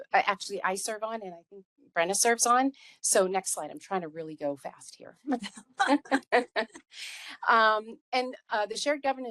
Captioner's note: laughing